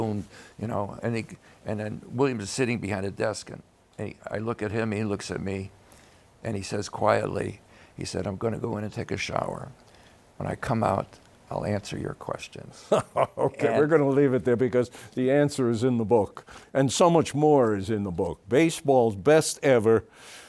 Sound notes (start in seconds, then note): 12.8 laughs